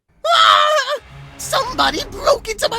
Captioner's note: scream